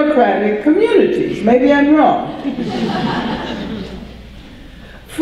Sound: audience laughter

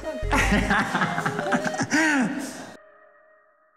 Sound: laughter

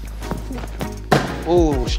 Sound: softball thuds

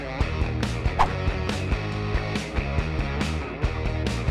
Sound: logo whooshing

